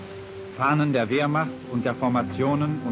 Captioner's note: speaking German